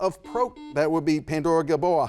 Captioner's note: buzzer buzzes